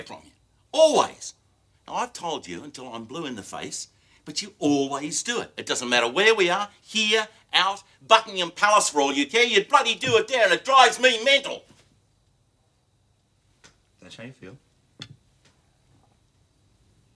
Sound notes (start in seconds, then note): none